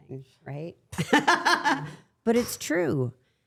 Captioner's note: laughing